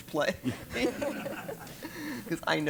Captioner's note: laugh